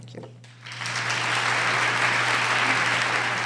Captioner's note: applause